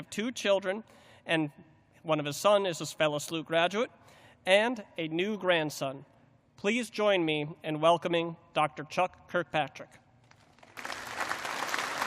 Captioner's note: applause